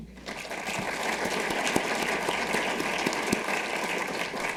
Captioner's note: audience applauding